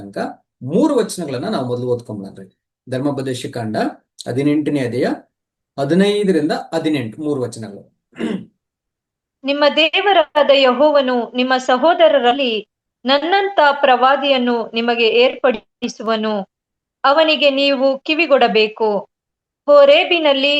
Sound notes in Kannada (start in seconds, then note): 8.1 ಗಂಟಲು ಸರಿಮಾಡಿಕೊಳ್ಳುವಿಕೆ